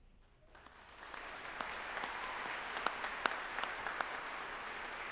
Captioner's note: audience applauding